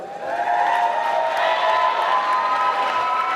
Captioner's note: applause